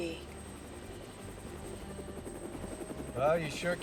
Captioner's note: aircraft noise